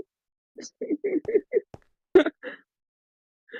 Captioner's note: laughing